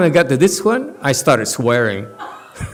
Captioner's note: laughs